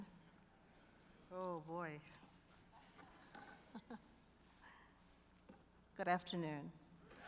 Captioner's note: laughs